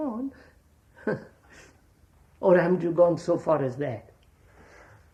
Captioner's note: laughs